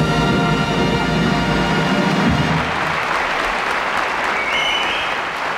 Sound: audience applauding

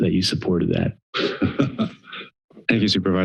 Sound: laughs

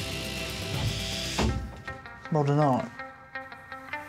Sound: vibrating

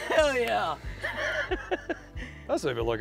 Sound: laughs

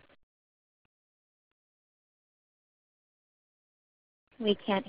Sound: silence

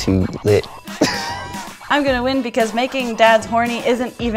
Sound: laugh

